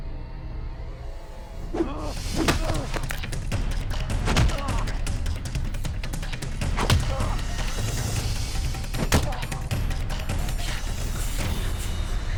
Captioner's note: fight sounds